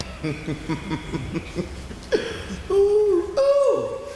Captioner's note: laughing